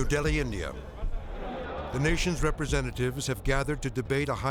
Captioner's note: group chattering